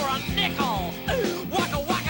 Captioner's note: inhale